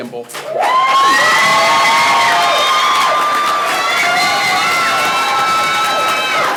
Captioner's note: people clapping; people cheering